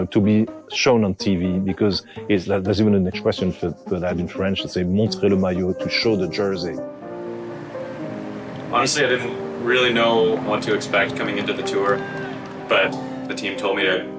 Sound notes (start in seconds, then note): 5.5 speaks French